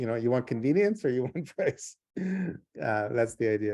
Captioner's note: laughs